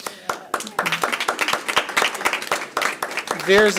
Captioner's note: applause